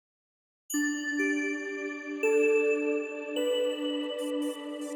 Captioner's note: bells ringing repeatedly